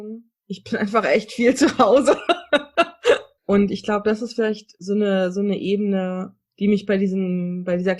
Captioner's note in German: lacht